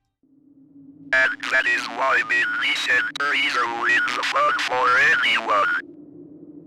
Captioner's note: wind howling